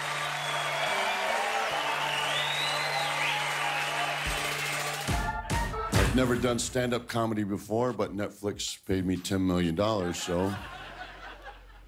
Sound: cheers and applause

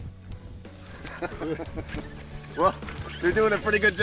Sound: laughing

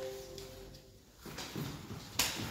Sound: none

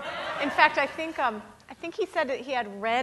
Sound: audience laughing

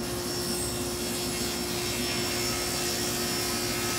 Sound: saw brattling

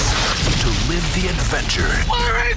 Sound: voiceover

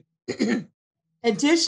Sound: clearing throat

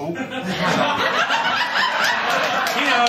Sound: laughter

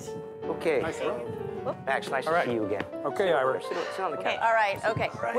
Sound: excited chatter

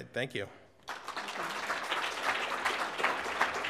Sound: applause

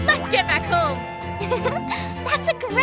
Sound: giggling

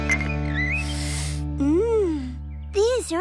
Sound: sniffs

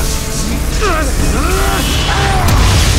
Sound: grunts and yells

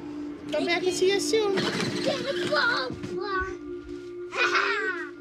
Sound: toy car starts; chuckling

